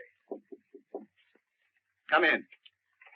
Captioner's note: knocking on door